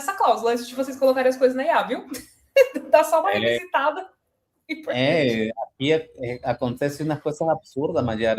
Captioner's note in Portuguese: risadas